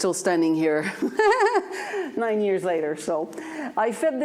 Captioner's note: laughs